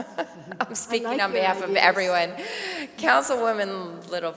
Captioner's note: laughter